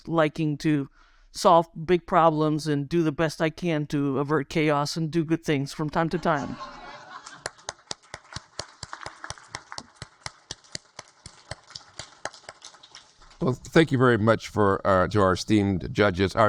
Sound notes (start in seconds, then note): 6.1 audience laugh; 7.0 audience applaud